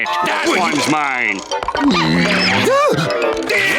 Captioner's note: groaning